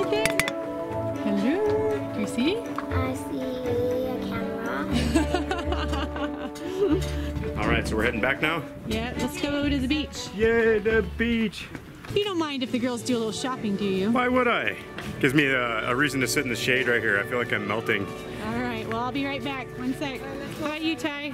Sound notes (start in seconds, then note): 0.2 voiceover; 4.8 laughing; 9.6 voiceover; 12.7 voiceover; 19.4 voiceover